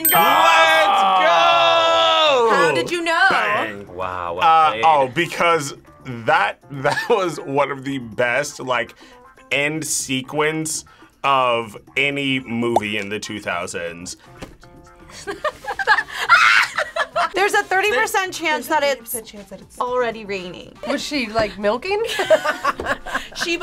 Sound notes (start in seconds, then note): 14.5 whispers; 15.1 laughs; 16.2 screams; 22.0 both laugh